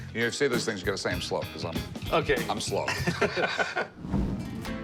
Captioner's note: laughing